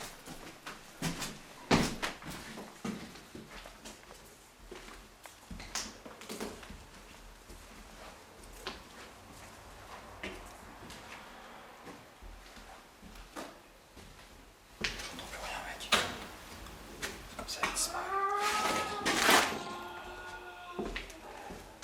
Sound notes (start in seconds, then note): 5.6 footsteps tapping; 14.8 speaks French; 17.5 cat growling and moaning